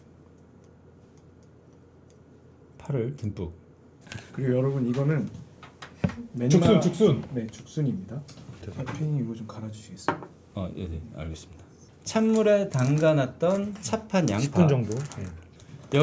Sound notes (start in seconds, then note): 10.5 grinding sesame seeds